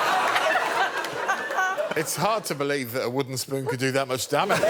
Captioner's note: laughter